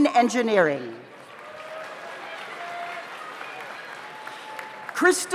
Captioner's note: audience applauds; audience cheers